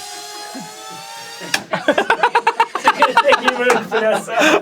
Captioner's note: one person is laughing; everyone is laughing now